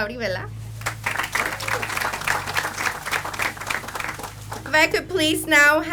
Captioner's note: audience applauds